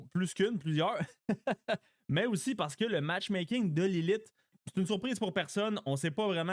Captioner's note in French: rires